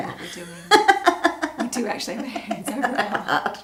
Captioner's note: laughs